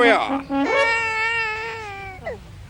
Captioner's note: baby crying